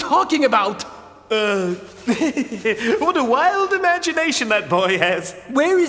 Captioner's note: laughs nervously